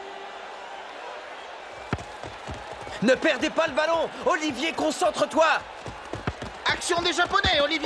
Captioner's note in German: beifall